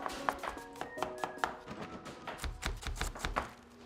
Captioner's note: whistling; thuds